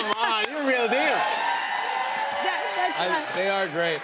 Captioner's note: cheers and applause